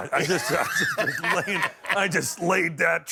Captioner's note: laughter